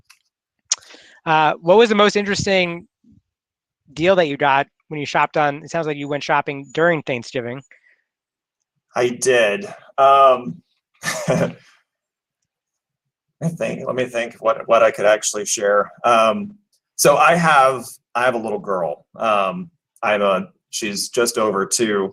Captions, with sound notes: What was the most interesting deal that you got when you shopped on? It sounds like you went shopping during Thanksgiving. - I did. (laughs) Let me think what I could actually share. So I have a little girl, she's just over two,